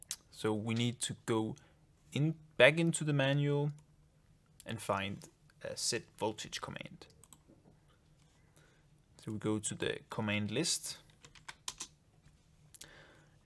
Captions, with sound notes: So, we need to go back into the manual and find set voltage command. (mouse clicks) So, we go to the command list. (keyboard keys click)